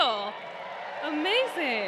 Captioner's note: crowd cheers